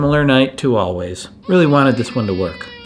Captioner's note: baby crying in background